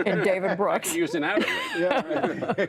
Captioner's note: laughter